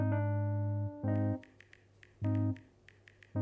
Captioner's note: dialing pad sound